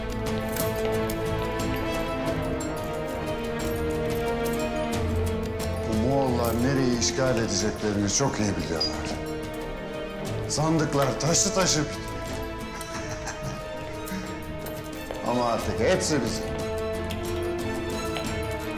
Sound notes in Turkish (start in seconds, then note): 0.1 Müzik - Gerilim; 12.7 Gülme sesi; 16.7 Müzik - Gerilim